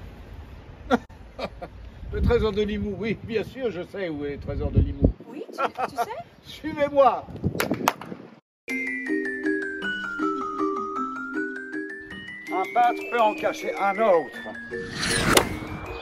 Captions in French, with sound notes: [Man laughs] Le trésor de Limoux oui bien sûr je sais où est le trésor de Limoux Oui, tu sais? Suivez-moi! [Man claps twice] Un peintre peut en cacher un autre